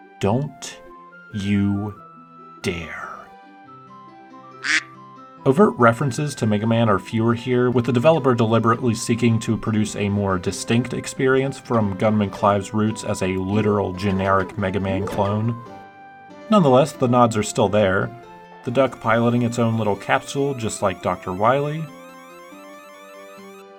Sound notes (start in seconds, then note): 4.6 quack